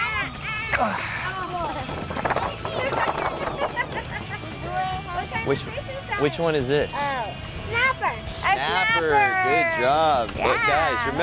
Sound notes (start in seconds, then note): 0.1 laughing; 4.8 chattering